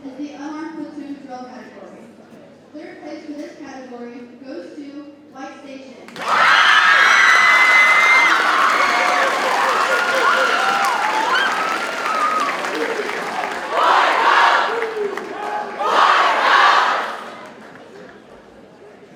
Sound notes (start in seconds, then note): 7.2 audience cheers and applauds